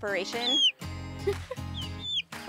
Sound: girl laughing; bird chirping

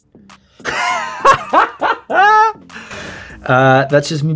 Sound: laughing

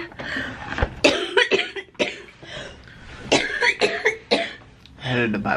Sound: coughing

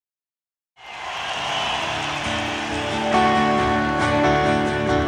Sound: audience cheering; bright music

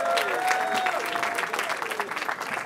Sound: cheering

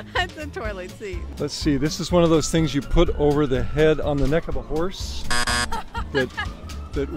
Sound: laughs; buzzer

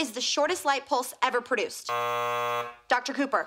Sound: buzzer

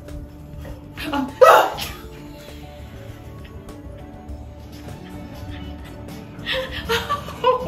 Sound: both chuckling; gasps

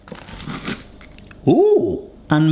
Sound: toast crunching

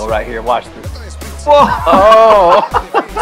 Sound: both laughing

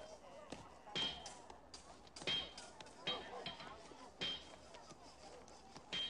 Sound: animals sounding; banging

